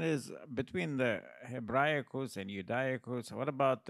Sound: speaks in Latin

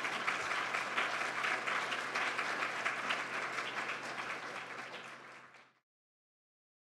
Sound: applause

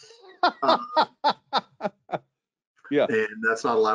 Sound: laughing

